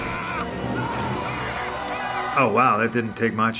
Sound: screaming

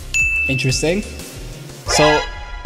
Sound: bell dings

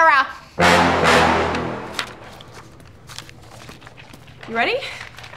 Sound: dramatic hip hop music; papers rustle

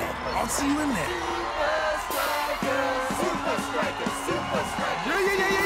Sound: chanting

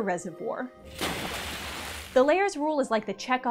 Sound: splash!

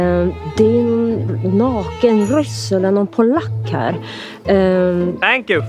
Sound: speaks with hillbilly-dialect

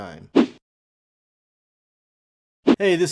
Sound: text whooshes

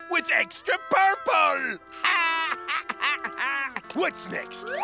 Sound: laughing

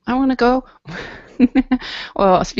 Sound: chuckles

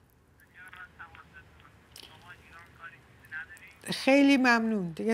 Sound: on phone

